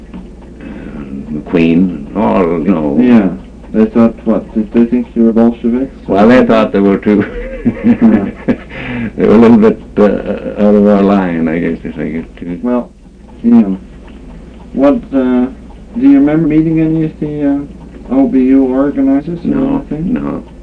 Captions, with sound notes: They thought what? Did they think you were Bolsheviks? Well, I thought they were too [laughs] they were a little bit out of our line, I guess, they figured. Well, what, do you remember meeting any of the O.B.U. organizers? No, no.